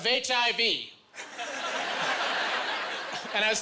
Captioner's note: laughing